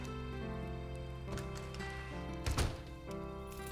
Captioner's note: door opens; door closes